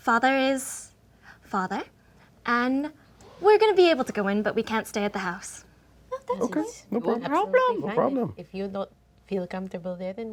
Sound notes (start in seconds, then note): none